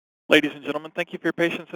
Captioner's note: voiceover